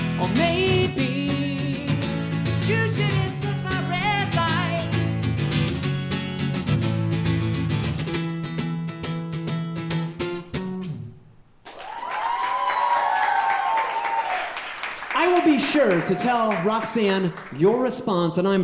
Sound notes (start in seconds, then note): 5.3 guitar strumming; 11.6 audience cheering